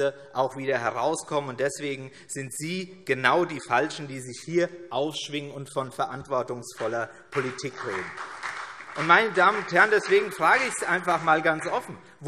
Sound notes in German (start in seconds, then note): 7.2 Beifall CDU und vereinzelt BÜNDNIS 90/DIE GRÜNEN